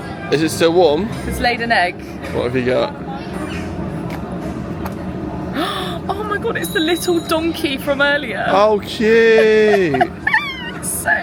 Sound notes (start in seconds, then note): 5.5 gasping; 9.3 laughing